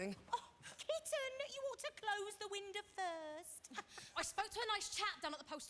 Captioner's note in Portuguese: laughs